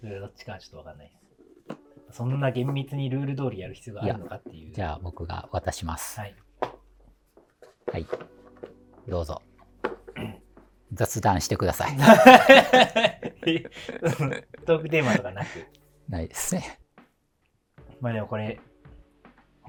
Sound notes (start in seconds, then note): 12.0 laughing